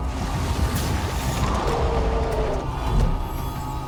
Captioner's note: tense ominous music playing; roaring